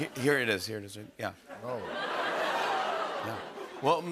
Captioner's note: audience oohs